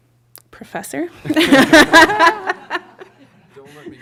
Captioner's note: laughter